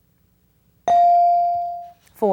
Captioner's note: bell dings